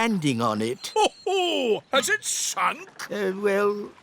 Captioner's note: laughs